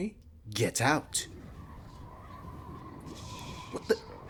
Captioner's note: magic whooshes of shadowy sand clash